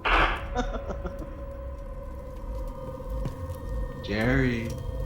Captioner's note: vampire laughing